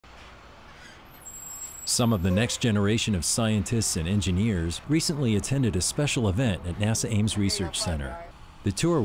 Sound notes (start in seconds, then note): 0.7 sound of bus brakes squealing